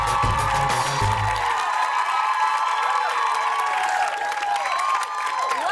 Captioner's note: cheers and applause